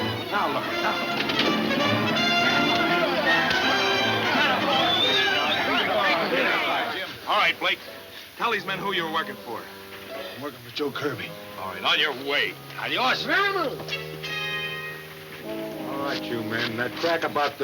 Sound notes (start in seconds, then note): 0.1 dramatic music; 0.2 men shouting; 4.1 man whistles; 12.5 man shouts